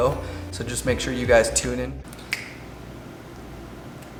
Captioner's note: snaps